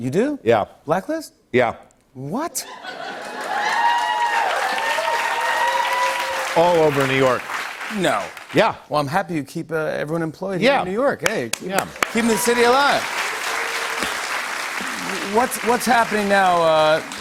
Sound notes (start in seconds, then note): 2.8 cheers and applause; 11.5 applause